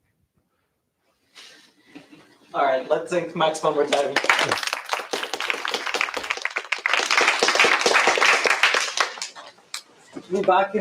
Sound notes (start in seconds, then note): 3.9 applause